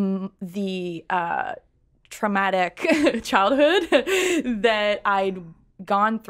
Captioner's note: laughs